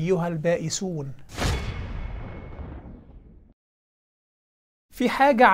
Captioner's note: sound effect